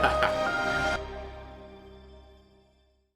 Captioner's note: laughs; soft music